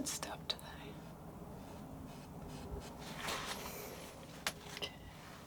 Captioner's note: scratching